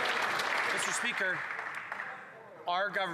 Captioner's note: some Applause